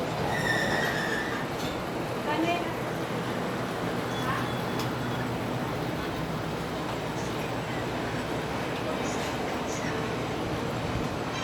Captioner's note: street Noise